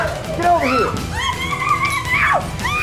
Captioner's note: screams